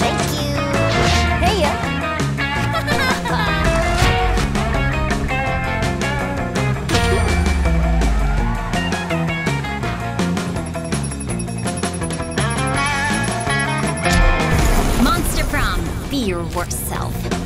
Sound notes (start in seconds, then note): 2.4 characters laugh; 6.9 crowd cheering sounds; 7.0 characters laugh